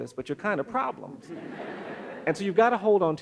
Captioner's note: audience laughs